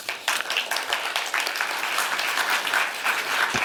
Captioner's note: applause